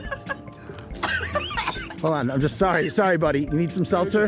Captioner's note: laughter turns into choking and coughing